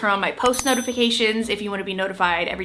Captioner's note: bell dinging